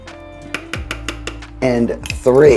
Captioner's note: utensil clinking; utensil tapping